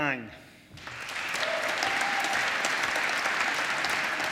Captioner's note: applause